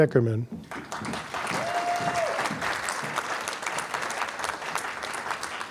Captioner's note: applause